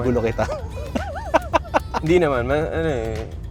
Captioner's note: laughs